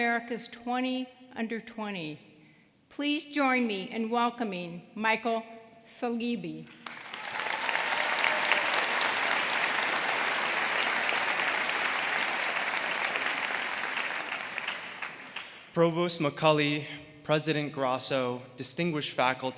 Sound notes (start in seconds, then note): 6.7 applause